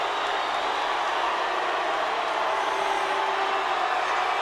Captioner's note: crowd cheering